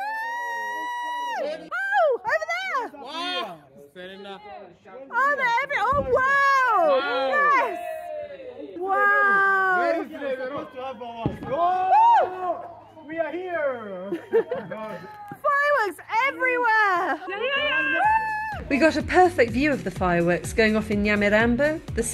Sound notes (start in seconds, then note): 0.0 loud cheering; 7.9 cheering; 11.2 firework bangs; 14.1 laughing; 17.0 cheering